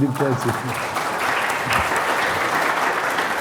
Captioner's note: applause